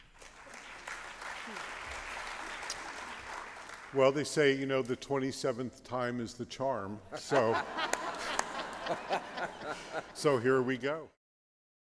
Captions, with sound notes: -[applause] -Well, they say, you know, the 27th time is the charm, so... -[laughter] -...so here we go.